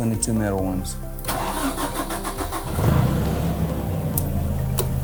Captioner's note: lift engine starts